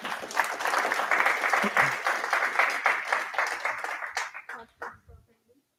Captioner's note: applause